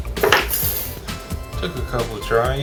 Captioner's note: metal clinking; bang